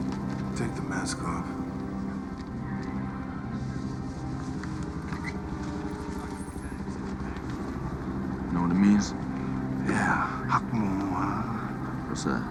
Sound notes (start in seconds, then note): 9.5 speaks Mandarin